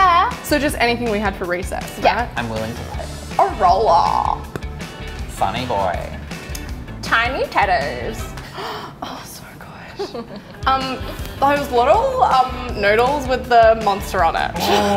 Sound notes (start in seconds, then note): 8.4 gasping; 10.0 laughing